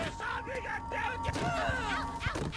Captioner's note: screaming